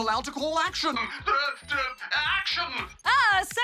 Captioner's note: stutters